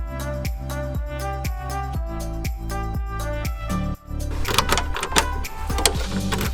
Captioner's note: key sounds